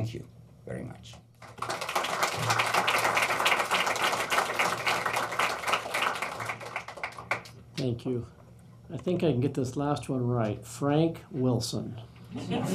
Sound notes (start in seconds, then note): 1.4 applause